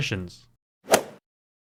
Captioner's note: swoosh